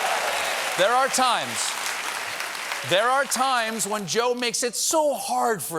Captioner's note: cheers and applause